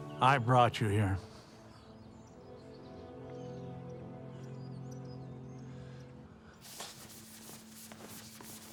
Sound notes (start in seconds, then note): 2.5 birds chirping; 2.5 slow somber music